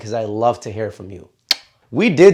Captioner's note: blows kiss